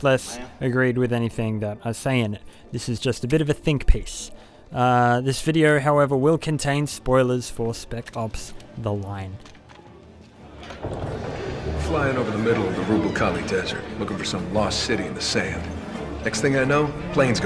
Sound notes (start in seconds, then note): 9.8 commercial audio